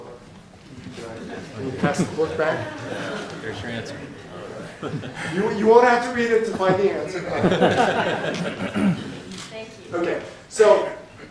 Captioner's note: laughter